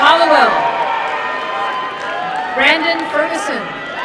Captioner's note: applause and cheering